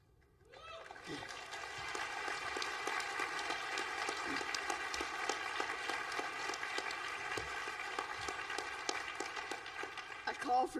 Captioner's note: applause